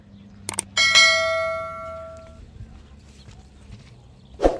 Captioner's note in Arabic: جرس